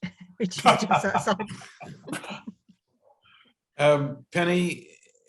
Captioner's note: all chuckling